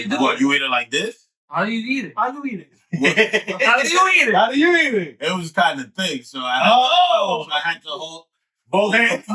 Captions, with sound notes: You eat it like this? How do you eat it? How do you eat it? (Laughing) How do you eat it? How do you eat it? It was kinda thick, so I had to hold both hands.